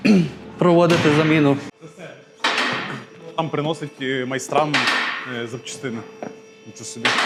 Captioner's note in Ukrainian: прочищення горла